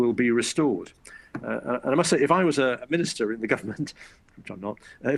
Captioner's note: laughs